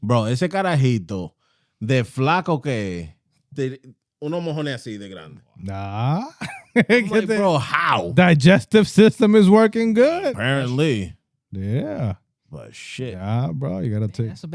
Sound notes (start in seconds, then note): 4.1 speaking In Foreign Language; 6.0 laughing